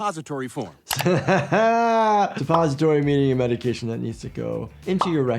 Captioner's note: laughs